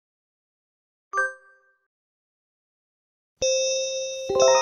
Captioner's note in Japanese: 警報